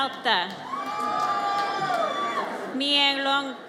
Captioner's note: audience cheers